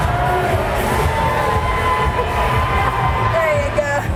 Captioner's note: audience cheering